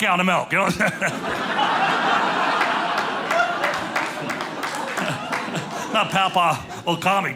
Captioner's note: audience laughing